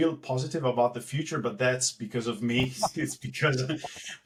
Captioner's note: laugh